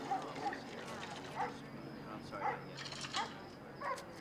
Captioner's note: group chattering; dog barking